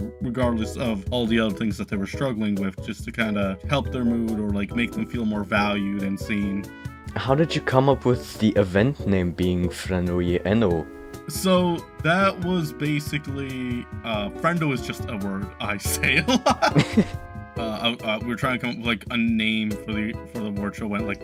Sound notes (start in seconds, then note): 16.2 both Laughing